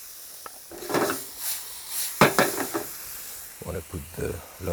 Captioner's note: pan sizzles